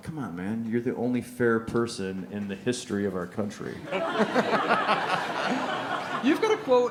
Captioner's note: laughter